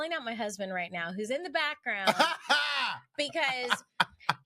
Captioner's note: laughing